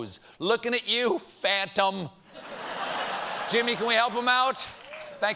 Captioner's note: laughter